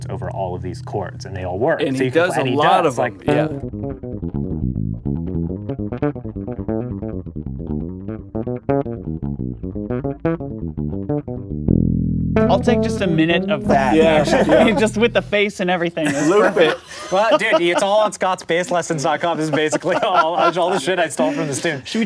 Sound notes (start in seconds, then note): 4.0 bassline; 13.7 laughing